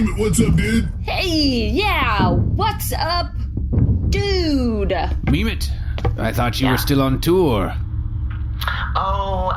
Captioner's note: nervous